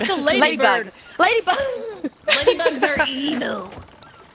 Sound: laugh

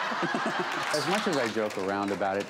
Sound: laughing

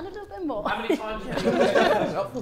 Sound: Sidemen laughing

